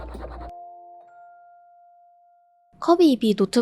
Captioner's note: chomp